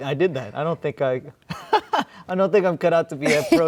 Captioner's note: laughs